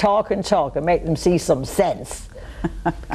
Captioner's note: laughing